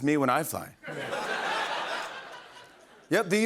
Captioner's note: laughter